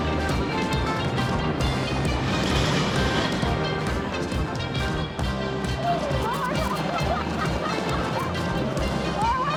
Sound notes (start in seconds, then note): 2.6 bobsleigh whizzes; 5.9 laughs; 8.4 upbeat rock music continues